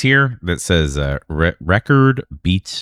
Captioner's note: uh